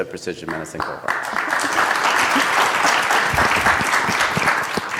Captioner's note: applause